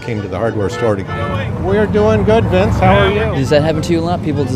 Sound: car honking

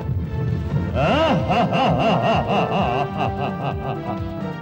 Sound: laughs

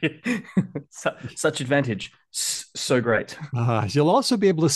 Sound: laughs

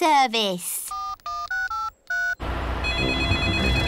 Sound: dialing; phone rings

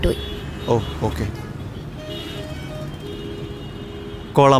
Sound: Traffic

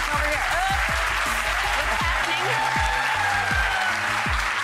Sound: audience applauds

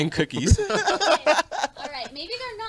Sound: both laugh

